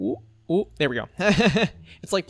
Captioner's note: laughs